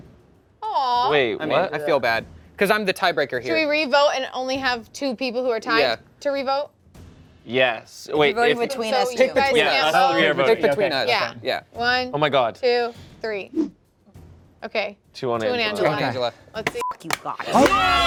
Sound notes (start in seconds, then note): 8.6 players chatter; 16.8 beep